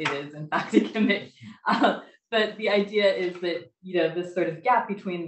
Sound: laughs

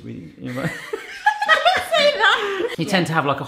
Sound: laughing

